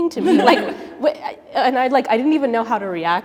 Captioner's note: laughs